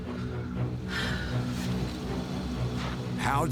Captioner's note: sighs